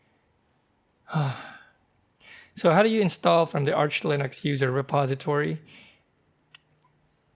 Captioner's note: sigh